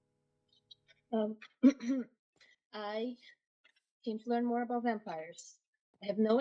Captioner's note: clears throat